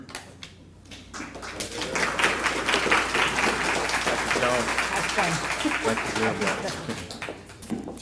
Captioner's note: applause